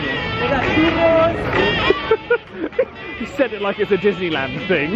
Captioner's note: laughing